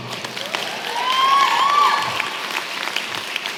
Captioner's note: applause